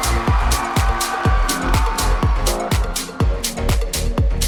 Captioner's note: crowd cheering